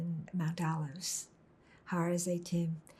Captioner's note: hebrew